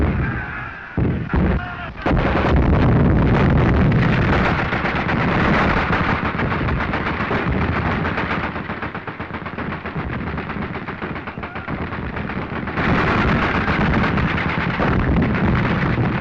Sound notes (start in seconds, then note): 2.0 firing